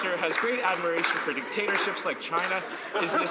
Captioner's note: laughter